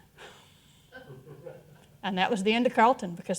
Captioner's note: all chuckling